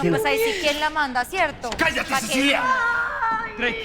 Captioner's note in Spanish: Quejidos